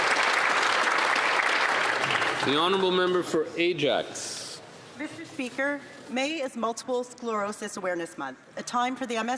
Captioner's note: applause